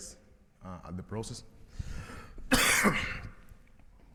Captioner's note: coughs